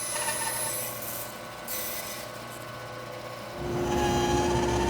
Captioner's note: tool squealing